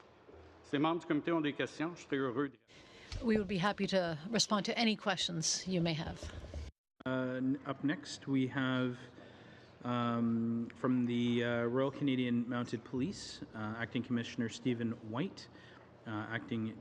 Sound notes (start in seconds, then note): 6.9 speaking French